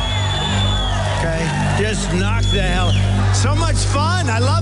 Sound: crowd cheering

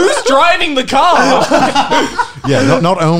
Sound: laughing loudly

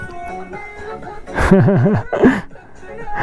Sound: laughs, music

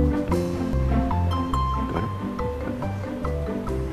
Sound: whispers

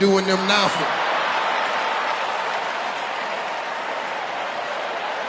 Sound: audience laughing

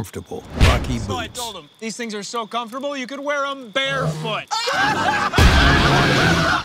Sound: laughter

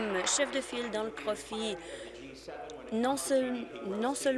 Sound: applause

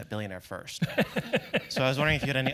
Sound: laugh

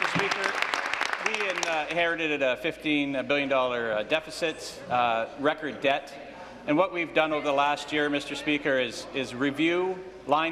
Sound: applause

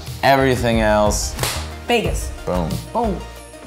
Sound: slap

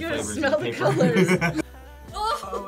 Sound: both laugh

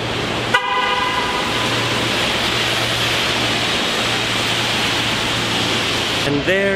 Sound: bus honks

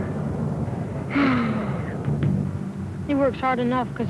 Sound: sighing

